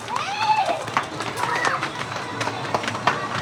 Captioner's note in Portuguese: Crianças correm e gritam